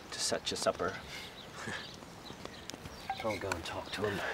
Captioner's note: chuckling